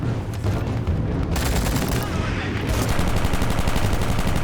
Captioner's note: gunshots